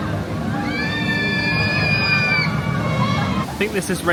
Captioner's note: rider screaming